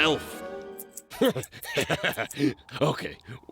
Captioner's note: laughs